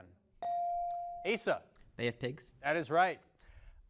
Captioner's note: bell dings